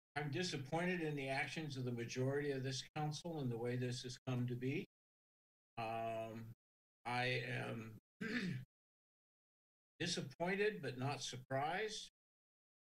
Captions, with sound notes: I'm disappointed in the actions of the majority of this council and the way this has come to be. I am (clears throat) disappointed, but not surprised